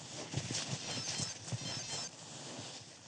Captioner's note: phone rings